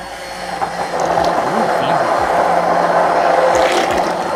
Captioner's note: mixer sounds